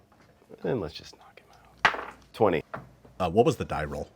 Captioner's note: dice roll